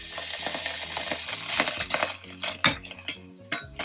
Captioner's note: sound of frying tomato